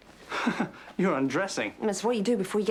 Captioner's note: chuckles